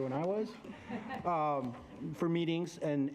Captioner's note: directors laughing